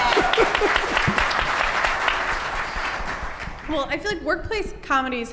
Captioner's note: audience applause